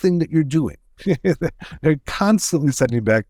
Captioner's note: laughing